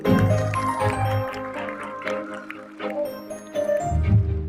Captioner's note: audience applauding